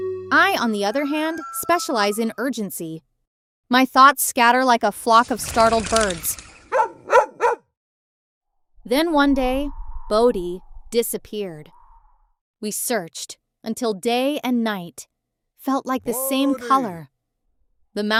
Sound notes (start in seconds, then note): 1.1 rooster crowing; 6.7 dog Barking!